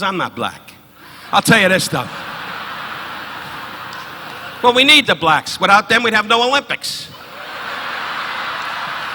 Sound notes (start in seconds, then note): 3.6 audience laughing